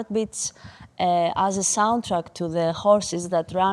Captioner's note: heartbeats beating